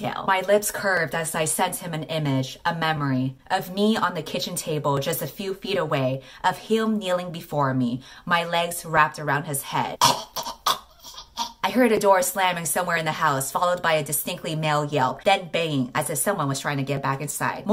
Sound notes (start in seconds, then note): 10.0 choking